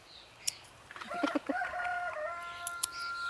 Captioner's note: A rooster crows